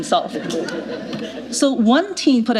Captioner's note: laughter